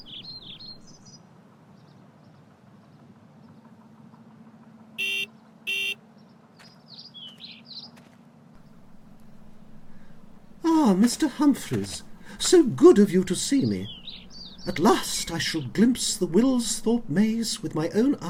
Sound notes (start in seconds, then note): 0.0 birdsong; 5.0 car horn